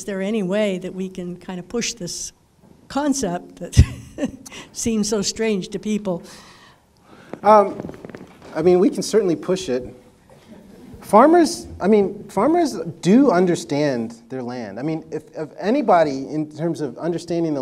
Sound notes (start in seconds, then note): 9.2 audience laughter